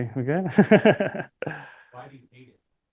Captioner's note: laughter